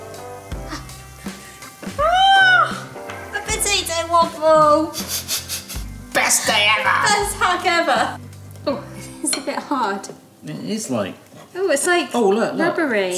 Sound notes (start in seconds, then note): 1.9 squeals; 5.0 sniggers